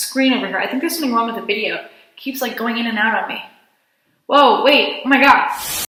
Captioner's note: Static